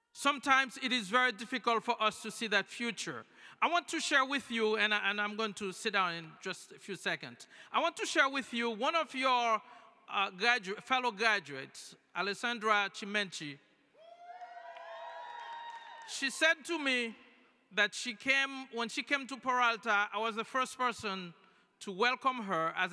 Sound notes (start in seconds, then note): 14.0 cheering